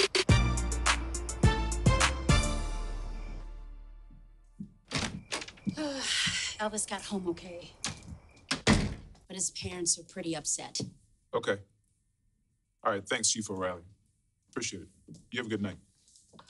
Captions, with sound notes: [hip-hop music plays] Elvis got home okay. -[door closes] -But his parents are pretty upset. Okay. All right. Thanks, Chief O'Reilly. Appreciate it. You have a good night.